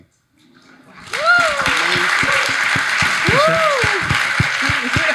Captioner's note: audience applauding